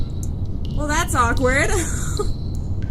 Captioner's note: laughs